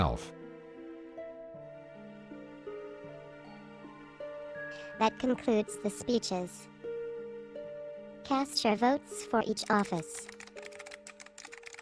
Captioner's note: typing noise